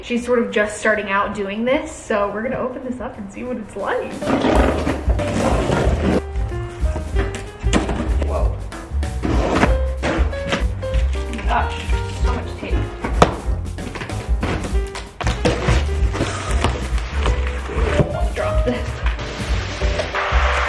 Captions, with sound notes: She's sort of just starting out doing this, so we're gonna open this up and see what it's like. (scissors scrape) Whoa! Oh my gosh, there's so much tape! I really don't wanna drop this.